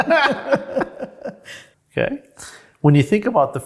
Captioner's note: both laughing